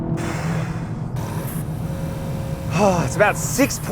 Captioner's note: car engine roaring; exhales